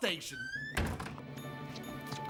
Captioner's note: door Slams